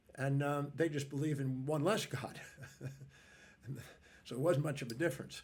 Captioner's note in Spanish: risas